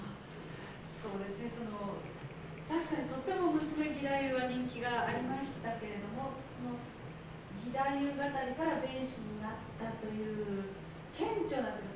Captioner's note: speaking Japanes